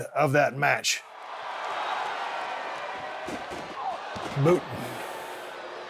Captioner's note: audience cheering